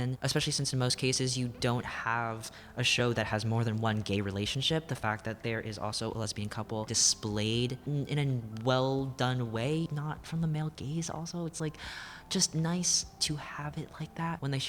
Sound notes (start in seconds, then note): none